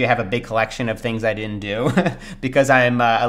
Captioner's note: laughs